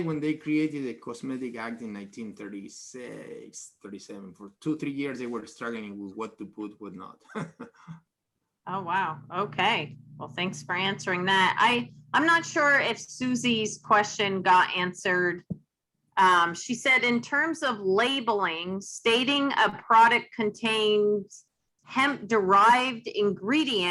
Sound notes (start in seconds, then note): 7.2 laughs